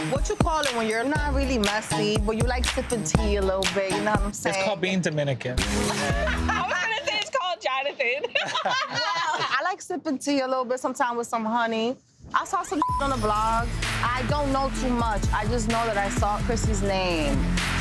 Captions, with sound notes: What you calling when you're not really messy, but you like sipping tea a little bit. You know what I'm saying? - It's called being Dominican. (both laughing) - I was gonna say it's called Jonathan. (both laughing) - I like sipping tea a little bit sometime with some honey. I saw some (beep) on a blog, I don't know too much, I just know that I saw Chrissy's name.